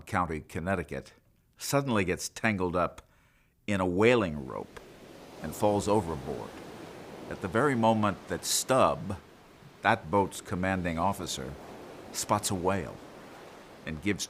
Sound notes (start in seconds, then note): 6.2 waves crashing